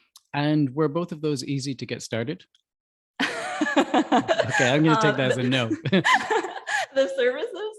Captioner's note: laughs